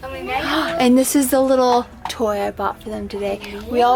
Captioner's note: gasps